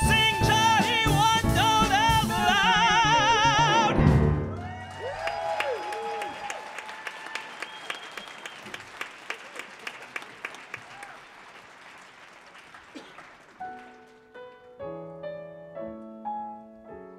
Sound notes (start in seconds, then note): 4.5 audience cheers and applauds; 13.7 sweet music